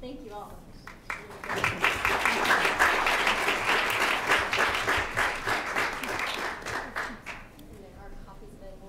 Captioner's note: applause